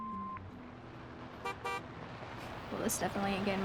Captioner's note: horn honks